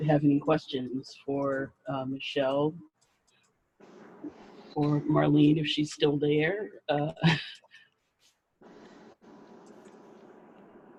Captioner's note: laughs